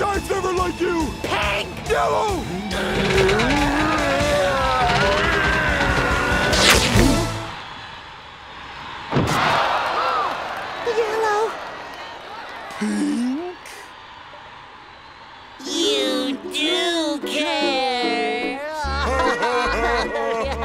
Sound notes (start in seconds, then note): 0.3 Spongebob and Patrick grunting; 4.1 fabric tearing; 6.8 crowd gasping; 16.1 Spongebob and Patrick sobbing